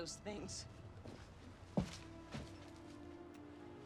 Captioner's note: footstep